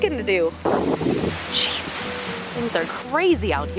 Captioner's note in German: flüstert